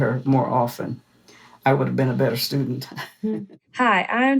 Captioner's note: laugh